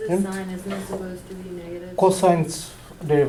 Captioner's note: voiceover